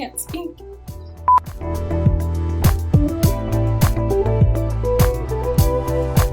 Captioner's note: beep